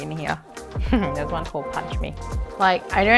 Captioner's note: giggling